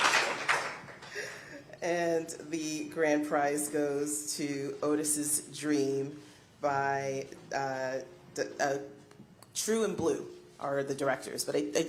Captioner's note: applause